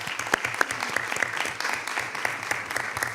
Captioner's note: applause